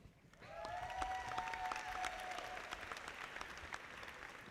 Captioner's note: audience applauding